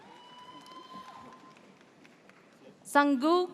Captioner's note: audience cheers